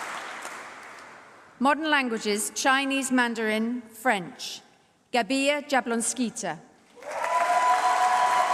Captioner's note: applause; Mandarin; applause